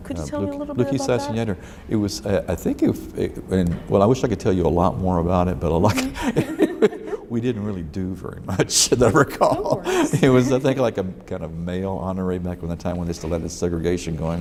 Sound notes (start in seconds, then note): 5.9 both laugh